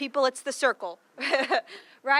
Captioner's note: laughing